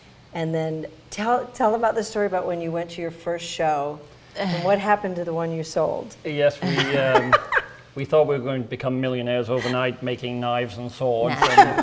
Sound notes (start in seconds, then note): 6.6 laughing; 11.2 laughing